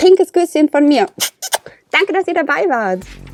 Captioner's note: kiss